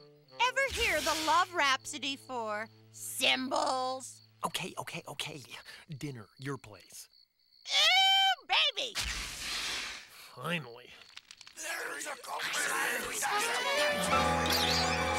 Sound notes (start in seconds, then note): 12.9 crowd grumbling